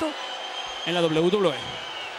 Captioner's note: applause